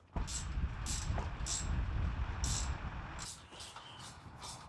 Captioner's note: socket wrench clicking